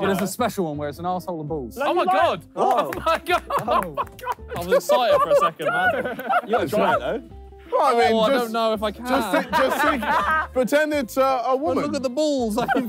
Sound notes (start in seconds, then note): 6.0 Ethan laughing; 12.5 all laughing